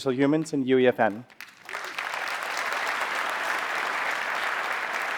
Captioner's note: applause